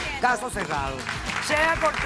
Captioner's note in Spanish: aplausos